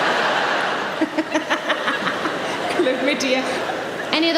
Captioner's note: laughs